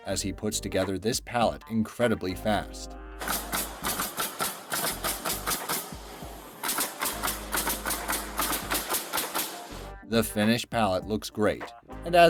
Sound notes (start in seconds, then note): 3.2 nail gun shooting